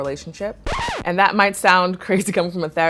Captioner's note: record scratching